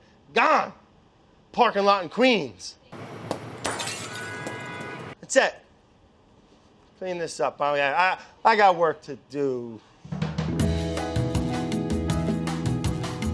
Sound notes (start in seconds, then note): 4.3 car honking; 10.2 cheerful music